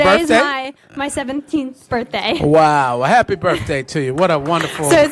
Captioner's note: applause